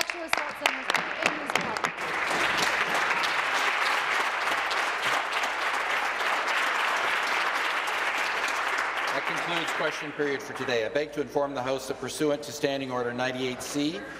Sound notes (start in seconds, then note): 7.0 applause